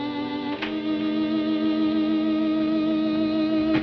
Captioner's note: door opens